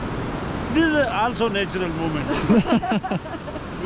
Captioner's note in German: Gelächter